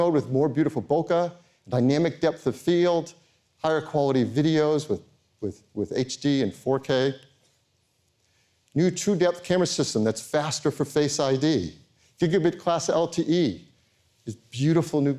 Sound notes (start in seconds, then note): none